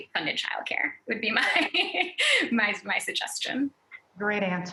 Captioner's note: laughs